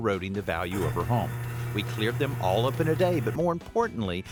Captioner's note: machine running